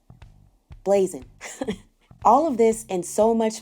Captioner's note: laughs